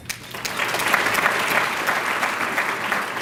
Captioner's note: applause